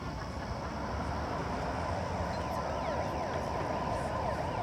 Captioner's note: sirens wailing